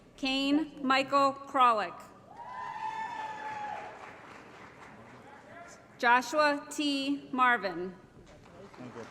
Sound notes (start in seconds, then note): 2.4 applause & Cheering